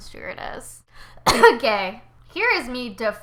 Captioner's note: cough